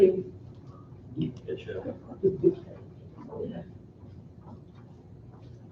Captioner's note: muffled conversation